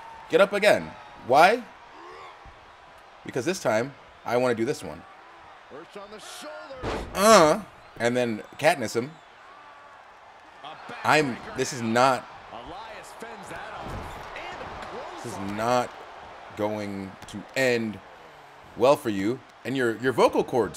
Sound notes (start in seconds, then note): 2.4 applause